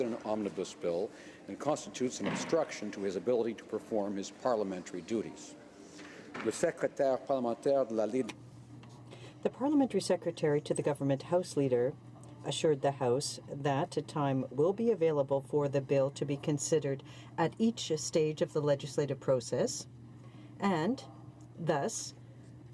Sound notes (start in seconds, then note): 10.0 speaking French